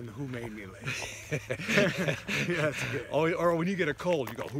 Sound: laughs

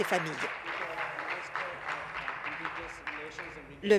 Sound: applause

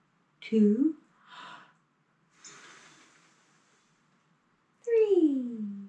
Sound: deep breath; deep breath

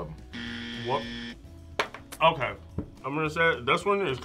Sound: buzzer rings

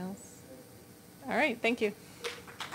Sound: applause

